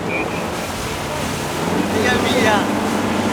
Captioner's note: boat roars; waves crash